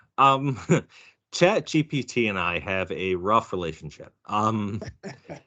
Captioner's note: laughing